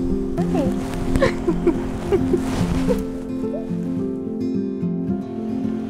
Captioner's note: laughing